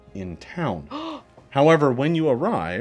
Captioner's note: gasps